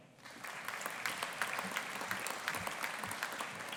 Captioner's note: audience applauding